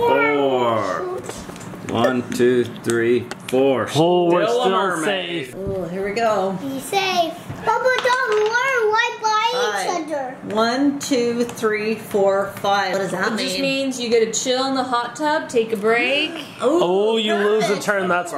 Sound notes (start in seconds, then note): 7.9 babbles